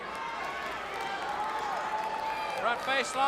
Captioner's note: crowd cheering